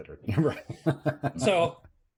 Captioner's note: laughs